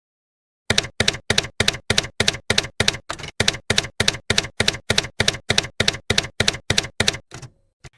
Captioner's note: typewriter keys clacking